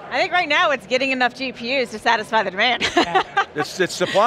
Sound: laughing

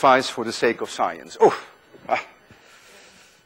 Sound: groans theatrically

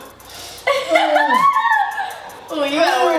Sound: laughs

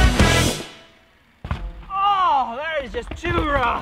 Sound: bike thuds

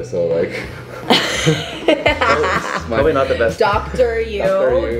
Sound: laughter

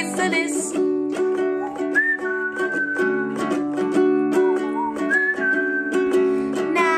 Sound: whistling

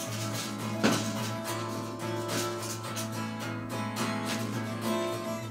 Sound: bridge building clattering

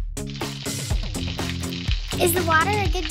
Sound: water spraying

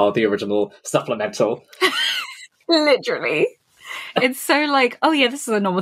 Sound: laughs

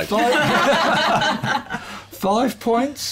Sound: laughter

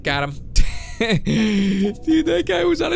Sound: chuckles

